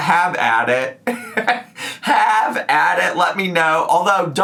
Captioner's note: laughs